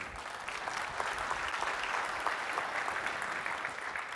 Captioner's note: applause